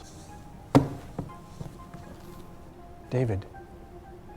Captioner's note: book smacking